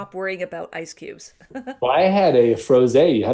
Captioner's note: laughs